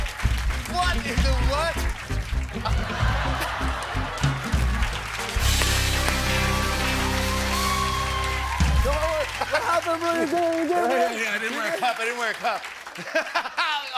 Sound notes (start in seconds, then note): 2.6 laughter; 8.2 cheers and applause